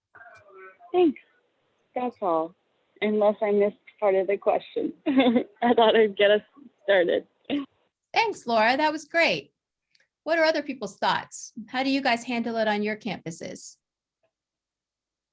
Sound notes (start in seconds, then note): 5.0 laughter